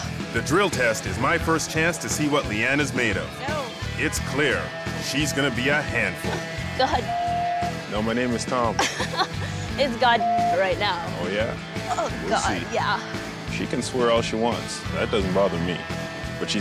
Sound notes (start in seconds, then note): 6.9 beep; 8.7 laughing; 10.0 beep